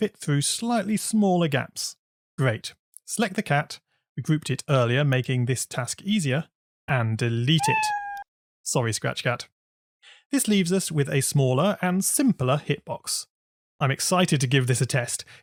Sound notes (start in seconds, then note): 7.6 meow